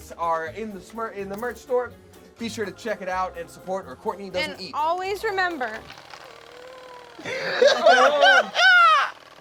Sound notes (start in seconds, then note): 6.3 ghoulish screams; 7.0 laughing